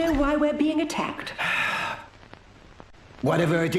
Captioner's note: Cooper sighing